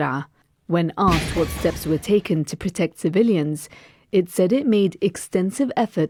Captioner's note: explosion